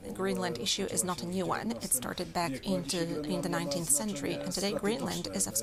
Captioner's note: speaking in native tongue